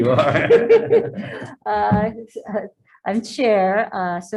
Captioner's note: man and woman laughing